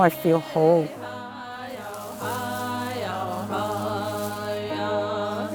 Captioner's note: chanting